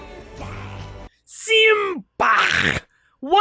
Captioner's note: mocking